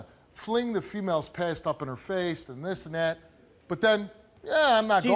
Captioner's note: none